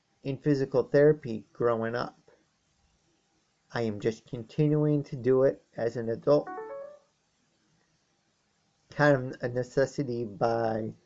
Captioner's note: ping of Kindle